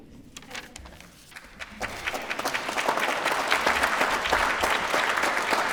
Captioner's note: applause